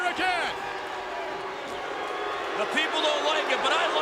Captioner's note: crowd boos